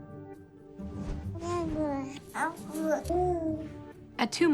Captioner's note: babies cooing